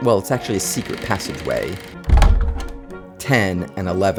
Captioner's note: door creaks